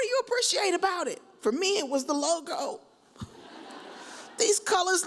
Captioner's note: audience chuckles